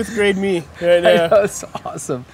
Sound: laugh

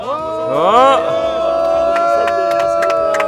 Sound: cheering

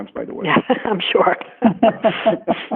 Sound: laughs

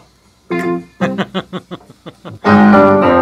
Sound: laughs

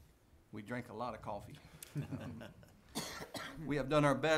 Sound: some chuckling

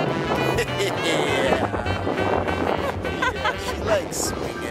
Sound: laughing

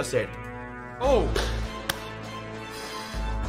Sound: clap

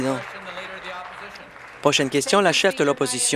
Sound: applause

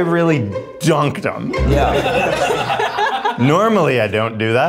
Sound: everybody laughs

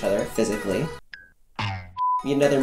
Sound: beeping

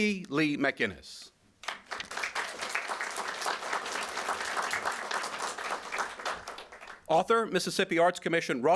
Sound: applause

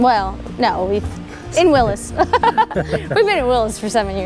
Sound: both laughing

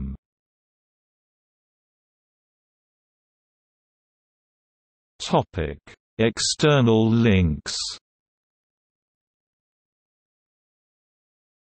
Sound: in Italian

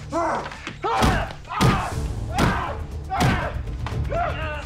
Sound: bodies scuffling; men grunting; body banging; Larry grunting; suspenseful music

